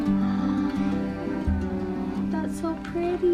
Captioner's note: gasps